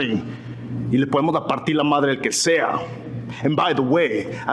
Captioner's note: speaking Spanish